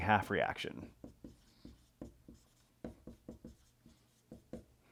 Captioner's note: pen scratching